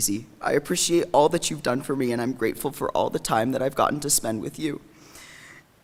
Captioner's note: none